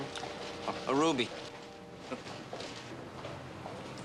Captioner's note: chuckles quietly